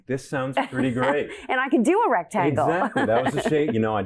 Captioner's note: laughs